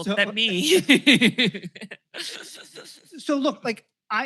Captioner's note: laughter